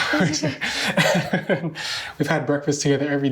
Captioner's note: laughing